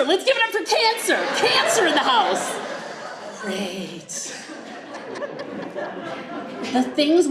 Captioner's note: group laughs